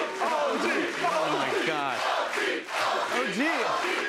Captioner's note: chanting; chanting continues